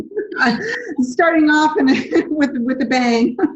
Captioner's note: laughs